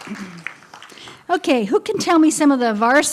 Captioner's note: applause and laughter